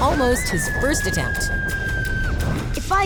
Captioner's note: screaming